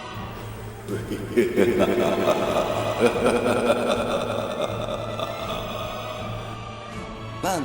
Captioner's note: evil laughter